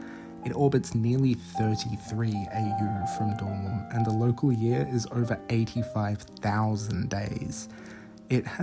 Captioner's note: normal tone